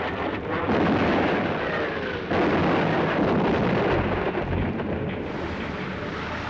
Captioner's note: explosions and gunfire